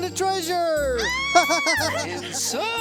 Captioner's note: Bambolona screams; laughing